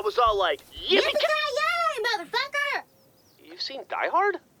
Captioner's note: southern accent